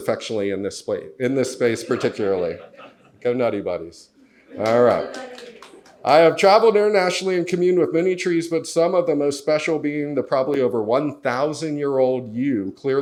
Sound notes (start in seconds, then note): 4.5 audience laughs and claps